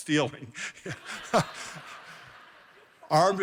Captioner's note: laughing